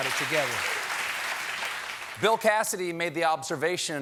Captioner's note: applause